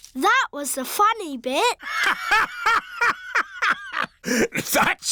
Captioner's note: laughs